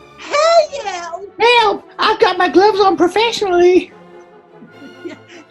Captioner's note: southern u.s. accent